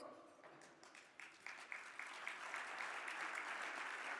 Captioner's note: crowd clapping